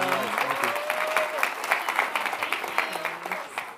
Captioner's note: audience applauding